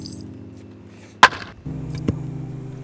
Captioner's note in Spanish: Sonido de batazo